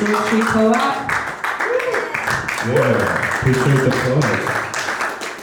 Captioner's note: audience clap